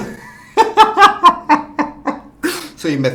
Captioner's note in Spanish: Risas